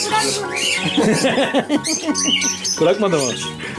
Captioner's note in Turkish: Gülüşmeler